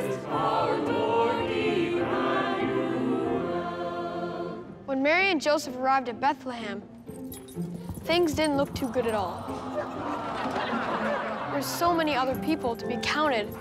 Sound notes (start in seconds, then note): 9.4 awwing, laughing